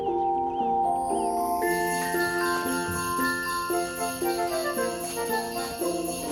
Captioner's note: sleigh bells